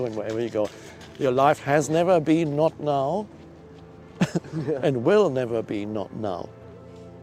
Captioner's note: laugh